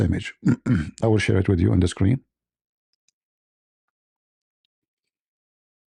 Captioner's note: clears throat